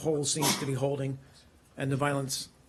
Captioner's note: sneezing